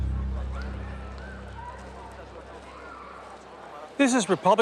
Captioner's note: people chatter